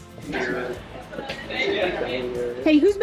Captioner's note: outside chatter and laughter